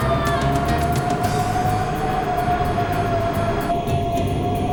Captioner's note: wind howling